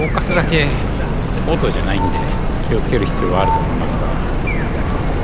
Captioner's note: wind noise audio